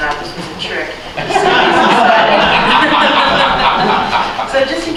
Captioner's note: laughter